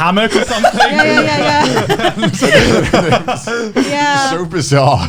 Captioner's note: all laughing